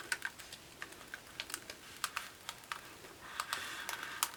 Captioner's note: vinyl crinkling